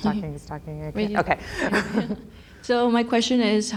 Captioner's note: laughs